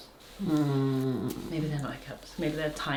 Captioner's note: grumbles